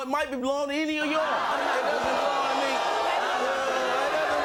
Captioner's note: booing